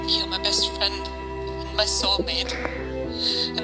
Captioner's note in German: Schluchzen